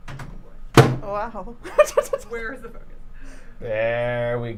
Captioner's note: laughs